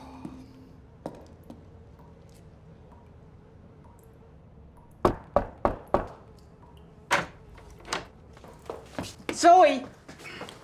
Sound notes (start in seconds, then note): none